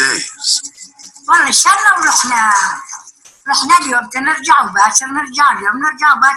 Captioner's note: woman speaking foreign language